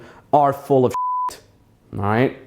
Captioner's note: beep